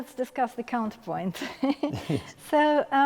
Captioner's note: laughing